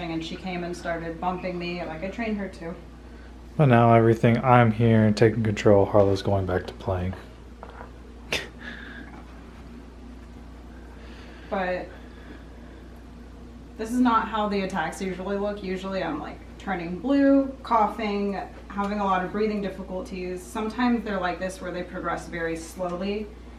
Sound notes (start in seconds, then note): 8.3 laughs